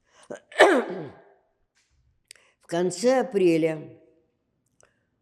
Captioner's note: coughing